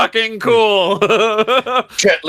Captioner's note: laughs